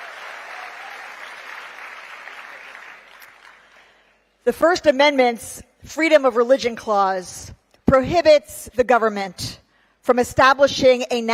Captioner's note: cheering